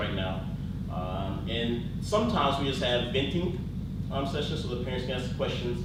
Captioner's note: speaks in foreign language